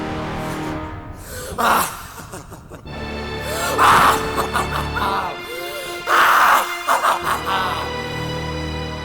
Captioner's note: laughing